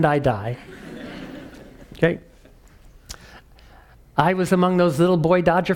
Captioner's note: laugh